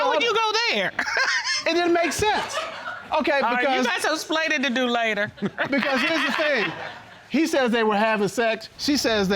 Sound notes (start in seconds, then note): 0.9 chuckling; 5.2 laughing